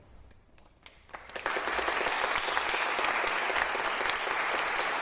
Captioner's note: audience clapping